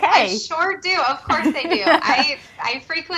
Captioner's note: chuckles